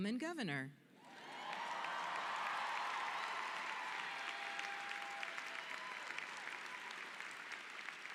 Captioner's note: cheering and applauding